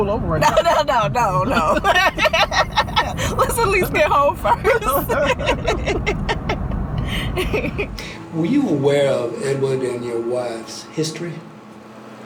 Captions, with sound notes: - No, no, no, no, no, no (laughs). Let's at least get home first (laughs). (Dwight laughs) - Were you aware of Edward and your wife's history?